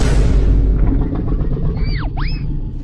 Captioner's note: Godzilla's belly rumbles